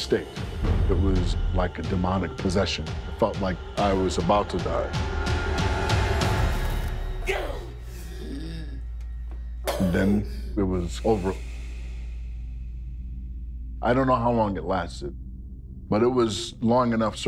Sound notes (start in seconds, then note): 7.8 grunts and gasps